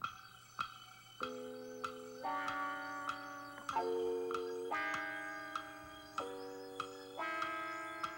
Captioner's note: clock ticking